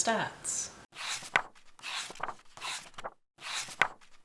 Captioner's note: pages turning